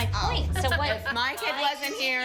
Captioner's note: laughs